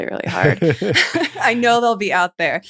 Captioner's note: laughter